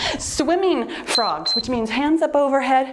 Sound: timer beeps

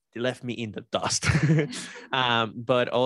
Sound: laughter

